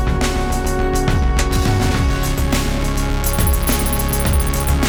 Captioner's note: soft buzzing